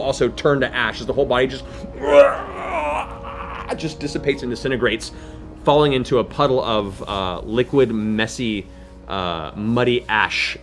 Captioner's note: death rattle